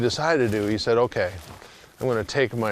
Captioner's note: dirt shifting